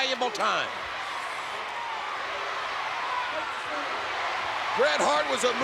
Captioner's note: spectators cheering